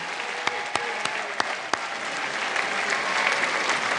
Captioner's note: applause